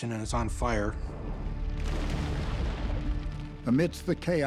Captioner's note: water splashes